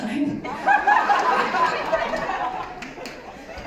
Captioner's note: laughter